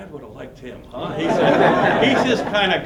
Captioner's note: laughter